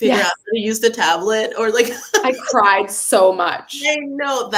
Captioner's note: laughs